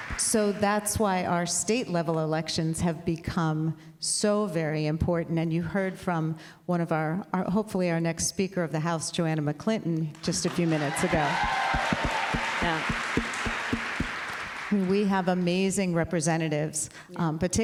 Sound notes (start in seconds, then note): 11.8 applause